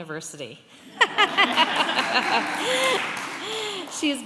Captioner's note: laughter